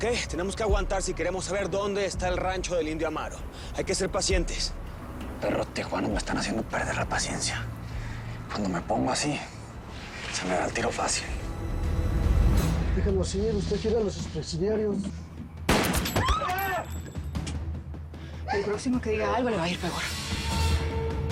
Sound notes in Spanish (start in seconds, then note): 15.6 Disparos; 16.2 Gritos